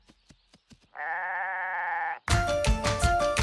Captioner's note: bleats; theme music playing